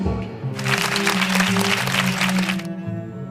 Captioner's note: applause